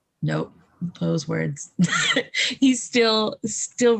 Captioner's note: laughs